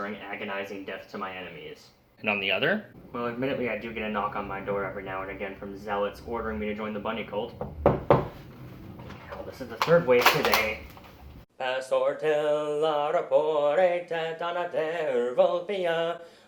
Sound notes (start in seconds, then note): 7.5 door knocks; 11.7 singing in a fictional language